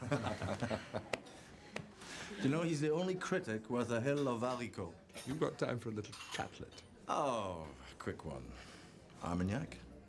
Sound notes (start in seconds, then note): 0.3 Rob laughs; 4.7 speaking in foreign language